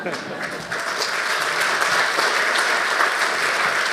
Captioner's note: audience clapping